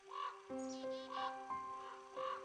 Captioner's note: gentle music; birds squawking